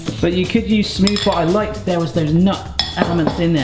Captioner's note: spoon clanks